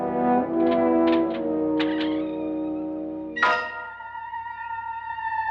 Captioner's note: door creaking